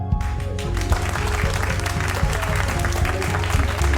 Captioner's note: crowd applauding